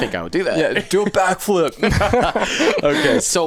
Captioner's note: both laughing